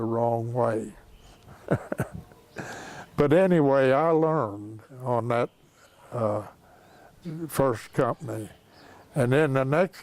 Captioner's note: laughs